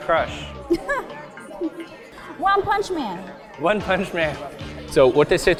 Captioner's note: chuckle